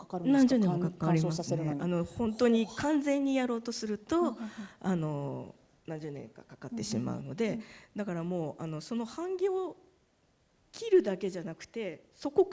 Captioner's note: speaking japanese